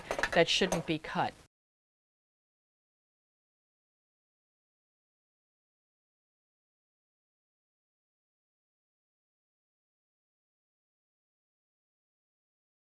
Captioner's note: no Sound Present